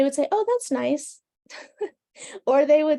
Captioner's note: laughing